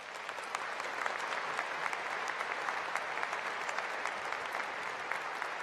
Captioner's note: applause